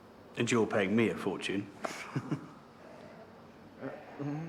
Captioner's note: chuckles